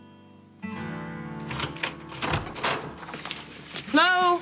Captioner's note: door opens